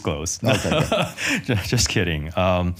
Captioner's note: laughs